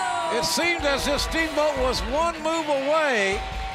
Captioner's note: bell ringing; crowd cheering